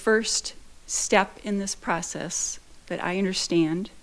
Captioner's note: none